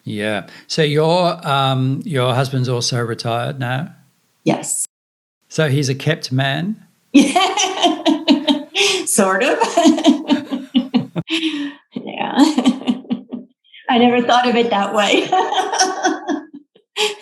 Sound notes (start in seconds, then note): 7.2 laughs